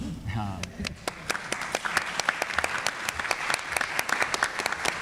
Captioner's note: audience applauds